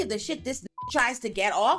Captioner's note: beep